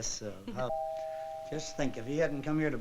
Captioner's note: doorbell ringing